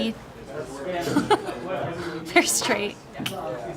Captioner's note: laughing